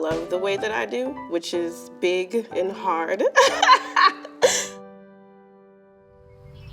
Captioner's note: laughing